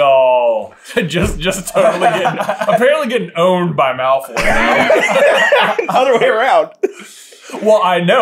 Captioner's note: laughing